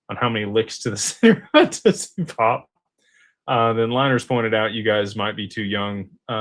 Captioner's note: laughter